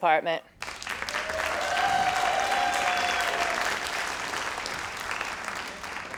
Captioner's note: crowd cheering and applauding